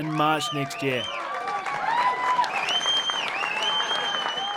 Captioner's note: crowd cheering and clapping